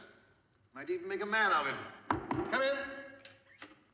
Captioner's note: knocking